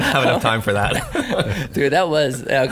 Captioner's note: both laugh